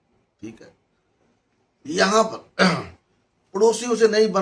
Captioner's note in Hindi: गला साफ़ करने की आवाज़